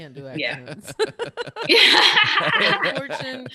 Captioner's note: laughing